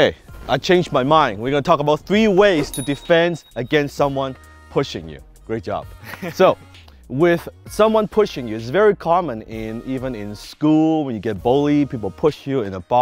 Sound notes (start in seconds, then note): 6.0 laughs